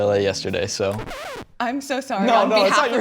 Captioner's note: record scratches